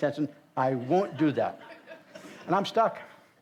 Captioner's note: audience laughs